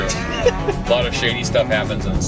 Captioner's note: laughs